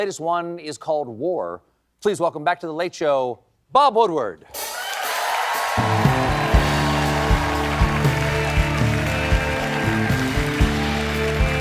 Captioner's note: cheers and applause